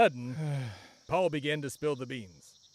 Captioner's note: sigh